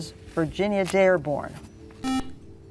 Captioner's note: buzzer